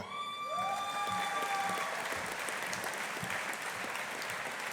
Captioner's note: audience applauding